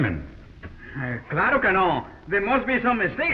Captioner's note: Pablo speaking in foreign language